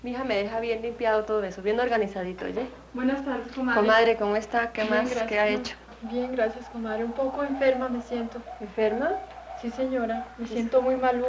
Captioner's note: women conversing in Colombian Spanish